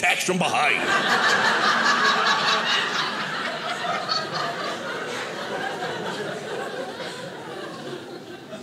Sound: audience laughing

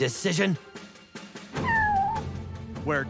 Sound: meowing

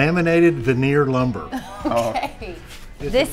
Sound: laughs

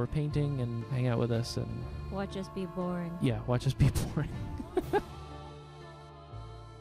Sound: laughing

